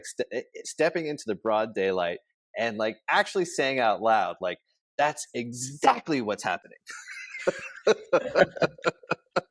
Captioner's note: laughs